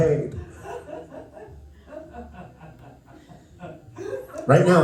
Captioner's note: laughter